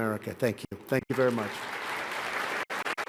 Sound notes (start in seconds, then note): 1.0 applause